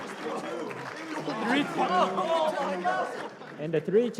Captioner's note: applause; chatter